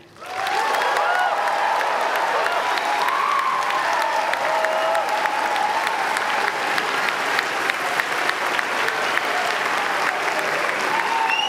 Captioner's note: applause